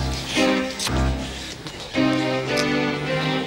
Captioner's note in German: Tür schließt